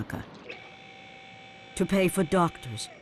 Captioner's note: machine humming